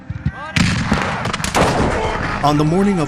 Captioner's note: guns banging